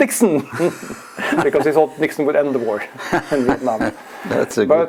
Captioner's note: laugh